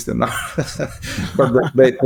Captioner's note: laughing